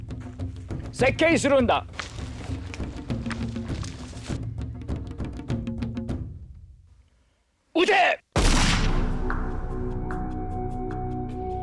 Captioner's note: non-english speech